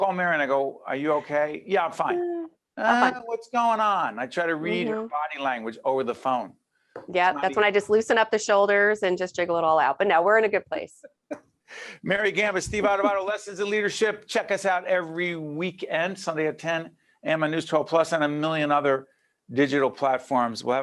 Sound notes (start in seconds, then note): 12.6 laughing